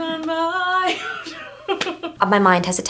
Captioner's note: laughing